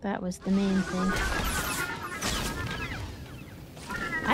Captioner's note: gunshots